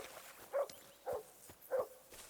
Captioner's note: dog barking